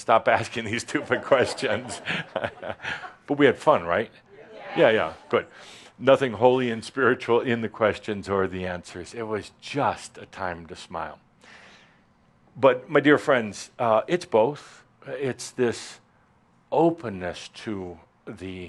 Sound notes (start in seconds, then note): 1.1 chuckles; 4.3 audience agrees